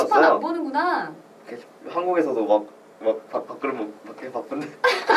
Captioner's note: laughs